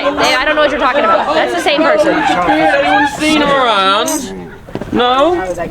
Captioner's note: people chattering